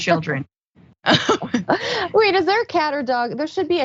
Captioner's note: laugh